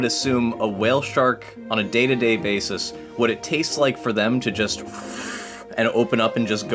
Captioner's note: sucking noise